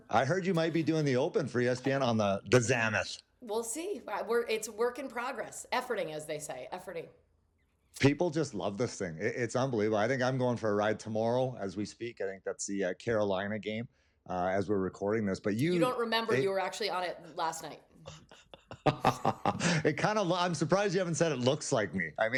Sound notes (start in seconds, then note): 18.0 laughs